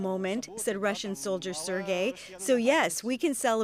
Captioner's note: speaking alternate language